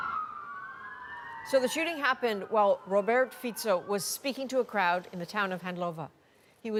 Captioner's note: sirens